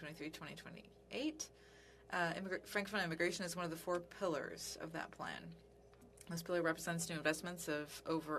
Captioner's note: speaking French